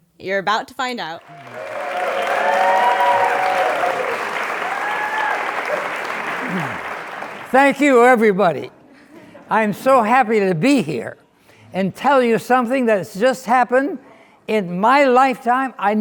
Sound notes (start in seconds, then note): 1.2 crowd cheering and applauding